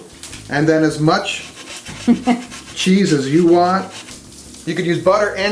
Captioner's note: woman chuckles